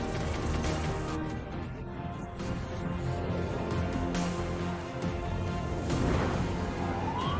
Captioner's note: strikes